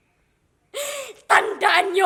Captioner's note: breaths